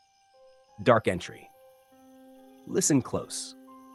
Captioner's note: pause